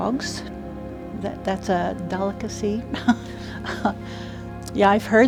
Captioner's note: laughing